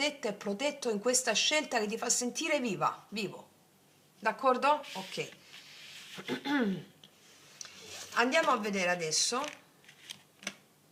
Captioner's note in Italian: schiarire la voce